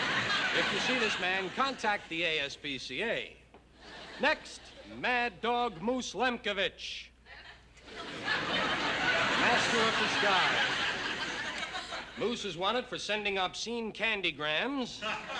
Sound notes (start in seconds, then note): 7.7 laughter